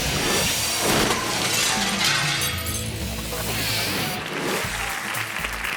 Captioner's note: graphics whooshing; upbeat music; glass shatters; hands clapping